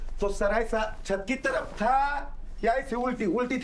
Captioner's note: murmurs